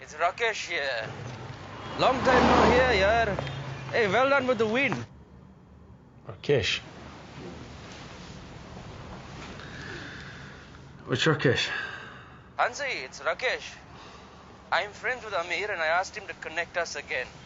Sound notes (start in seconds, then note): 1.0 car whooshes